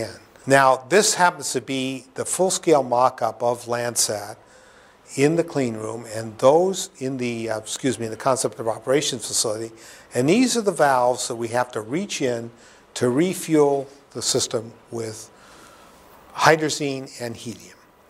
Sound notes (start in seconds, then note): none